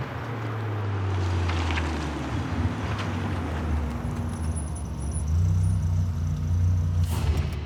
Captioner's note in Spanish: Ruido del motor del auto